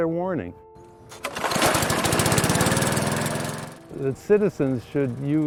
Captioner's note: motor revving